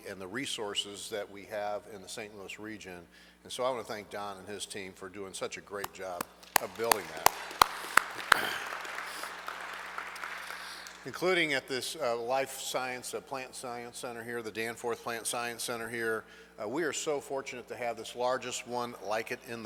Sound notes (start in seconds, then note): 6.1 hands tapping; 6.1 audience clapping